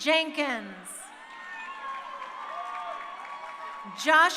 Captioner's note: crowd cheering